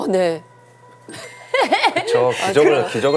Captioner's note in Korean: 헤헹